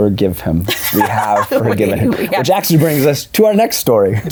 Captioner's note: laughs